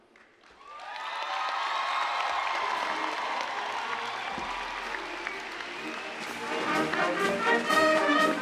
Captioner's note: applause, cheering